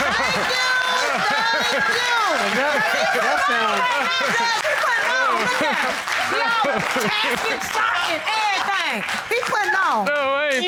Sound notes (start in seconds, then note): 2.6 indistinct chatter